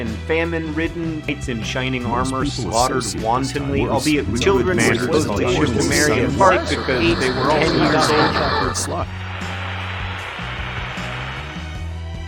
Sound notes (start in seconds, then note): 6.2 tuning radio; 9.2 screen turns into static